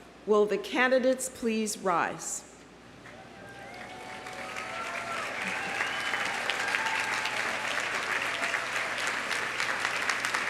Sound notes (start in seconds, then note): 3.1 audience cheering; 3.2 audience applauding